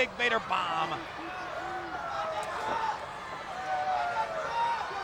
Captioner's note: crowd yelling